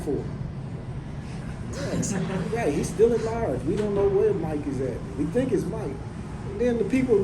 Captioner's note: laughs